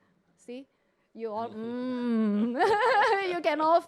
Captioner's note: both chuckle